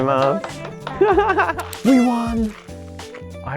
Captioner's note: speaks Japanese; stallkeeper speaks Japanese; laughs